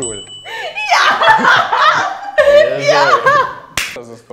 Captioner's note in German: lacht